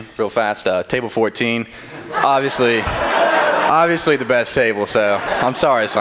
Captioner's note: laughter